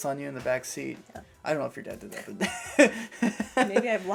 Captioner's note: laughter